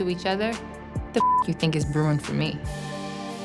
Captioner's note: beep